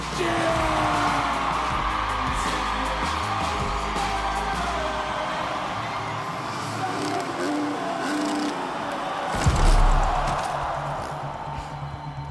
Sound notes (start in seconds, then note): 0.3 crowd cheering; 4.2 upbeat music; 7.2 motorcycle engine revving; 9.4 crashing noise; 9.7 crowd reacting; 11.1 ominous music